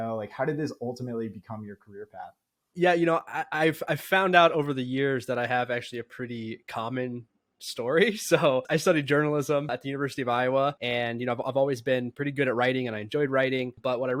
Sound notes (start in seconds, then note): 12.1 speaking